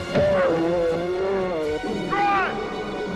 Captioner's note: blow thuds; bear roars; Eli grunts